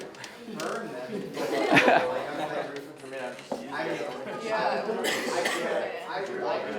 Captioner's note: audience laughing and murmuring